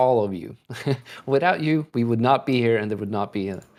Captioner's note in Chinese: 笑声